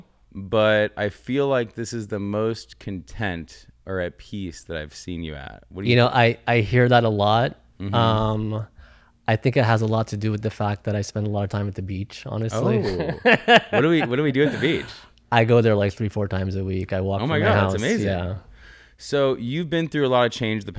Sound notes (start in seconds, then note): 12.5 laughs